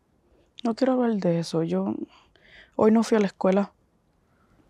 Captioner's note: Spanish